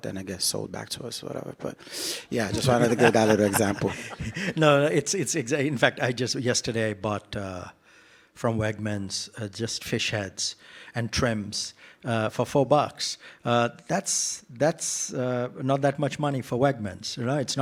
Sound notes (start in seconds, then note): 2.5 laughter